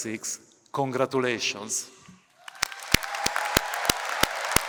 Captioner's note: cheering, applause